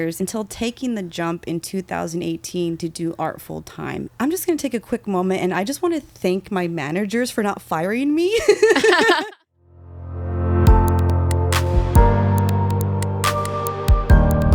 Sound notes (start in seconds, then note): 8.3 laughing; 10.6 gentle upbeat music